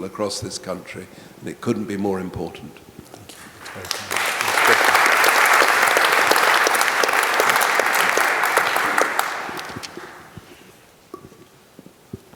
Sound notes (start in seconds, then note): 3.2 audience applauding